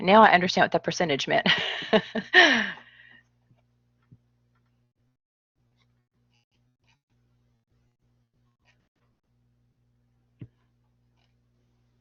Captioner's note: laughter